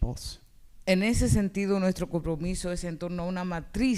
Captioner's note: speaking spanish